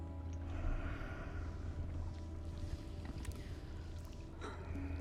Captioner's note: creature breathing